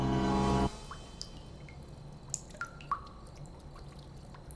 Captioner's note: water dripping